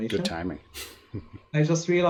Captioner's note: chuckles